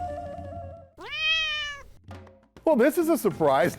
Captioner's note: cat purrs